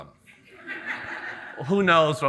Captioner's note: audience laughing